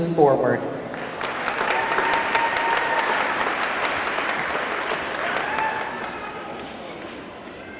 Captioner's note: audience clapping; audience cheering